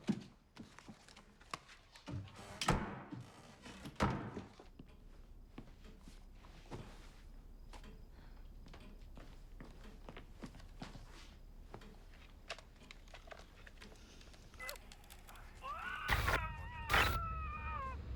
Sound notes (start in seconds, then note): 4.6 clock ticks; 14.5 muffled screams